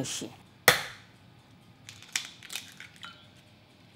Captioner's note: egg cracking